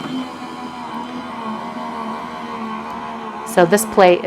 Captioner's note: embossing machine grinding